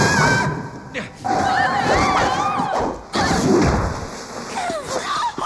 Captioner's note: screaming